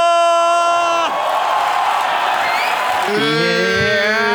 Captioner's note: crowd applauding